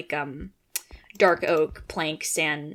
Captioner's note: click